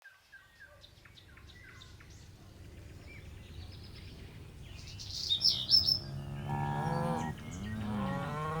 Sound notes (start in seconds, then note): 0.2 birds calling; 5.8 cows mooing